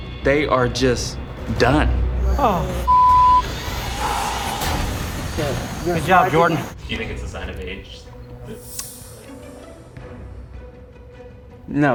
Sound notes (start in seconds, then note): 2.8 beep; 9.0 tense music